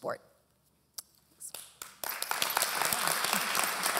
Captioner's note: applause